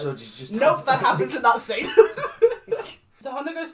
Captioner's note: laughs